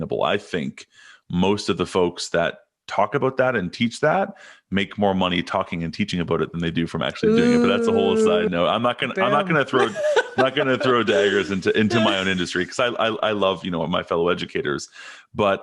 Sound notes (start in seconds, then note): 9.0 laughing